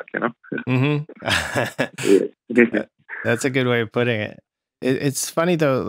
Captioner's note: laughter